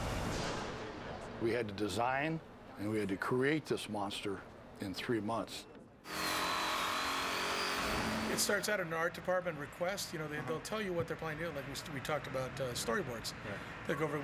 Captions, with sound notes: We had to design and had to create this monster in three months. [saw buzzing] It starts out an art department request. They'll tell you what they're planning. We talked about storyboards.